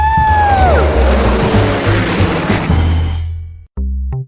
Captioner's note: yelling; plane engine roars; funky electronic music